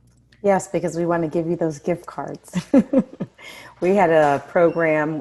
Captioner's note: laughs